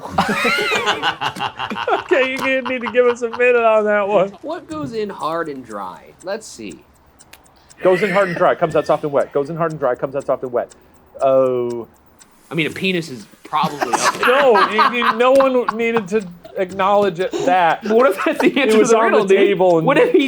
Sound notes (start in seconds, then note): 0.0 group laughs; 13.5 laughs